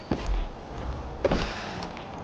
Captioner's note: beeping